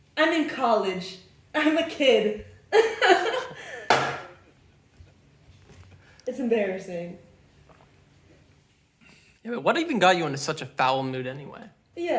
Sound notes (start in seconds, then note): 2.7 giggles; 3.9 cup clanking